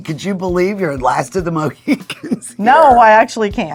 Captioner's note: chuckling